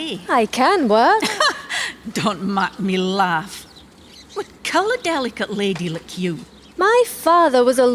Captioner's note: laughs